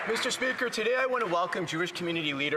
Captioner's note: some Applause